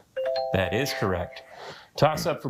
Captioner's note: bell dings